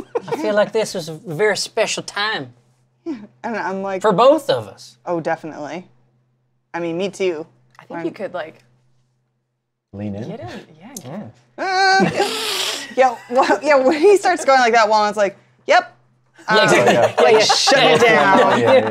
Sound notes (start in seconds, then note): 11.8 laughter; 16.6 laughs